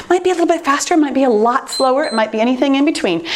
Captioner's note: timer beeps